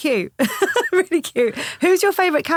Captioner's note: laughing